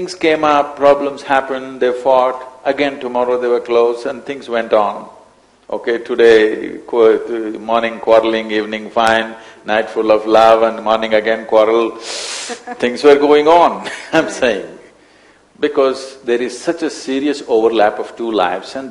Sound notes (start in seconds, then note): 12.5 laughs